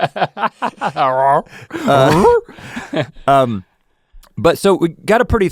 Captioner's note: laughing; imitates Scooby-Doo